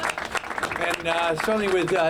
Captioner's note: applause